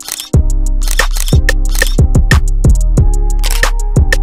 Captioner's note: funky music; camera shutter clicks